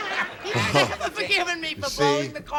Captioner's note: laughter